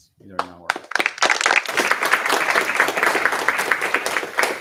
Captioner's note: applause